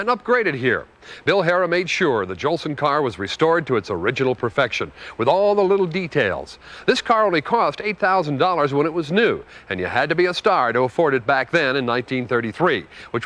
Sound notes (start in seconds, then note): none